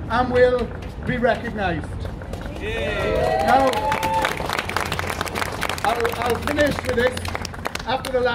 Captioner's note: applause